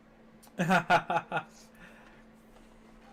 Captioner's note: laughs